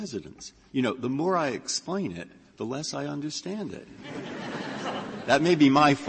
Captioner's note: laughter